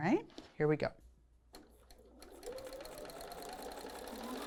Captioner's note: sewing Machine